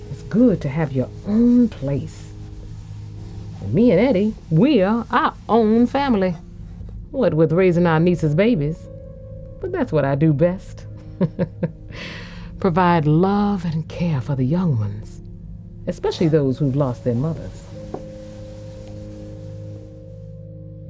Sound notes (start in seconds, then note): 11.0 giggling; 18.1 soothing music